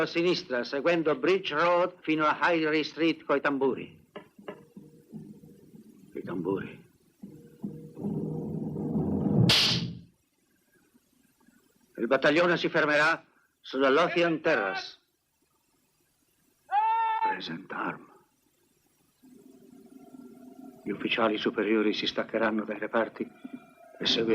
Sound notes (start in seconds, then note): 5.6 drums; 16.0 man yelling commands